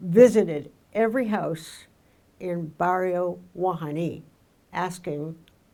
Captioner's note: speaking in foreign language